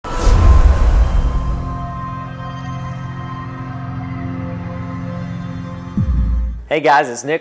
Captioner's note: sound effect